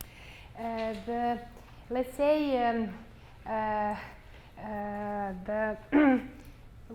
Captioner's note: clears throat